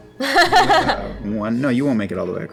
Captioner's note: laughter